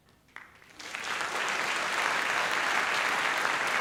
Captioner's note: applause